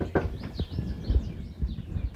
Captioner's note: knocking on door